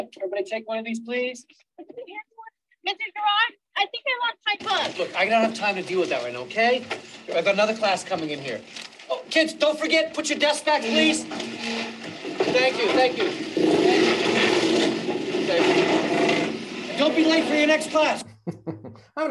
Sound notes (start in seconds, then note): 14.9 desks rattling; 18.2 chuckles